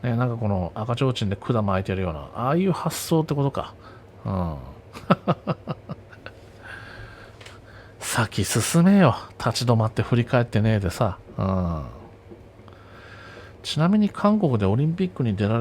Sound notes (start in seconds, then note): 5.0 laughs